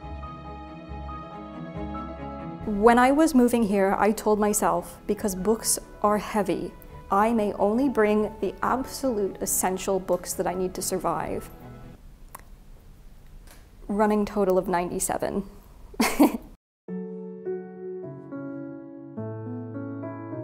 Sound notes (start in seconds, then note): 0.0 adventure music; 16.0 chuckles; 16.9 calming piano music